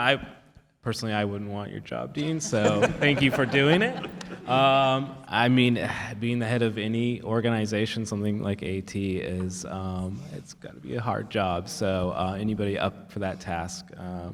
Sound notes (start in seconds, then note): 2.2 panellists laugh